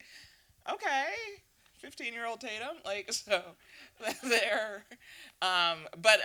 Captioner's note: laughing